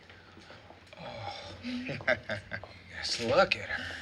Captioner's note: laughs